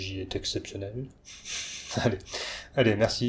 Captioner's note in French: ha ha ha